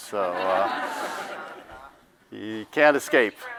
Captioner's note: audience laughs